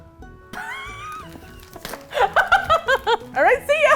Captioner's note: laughs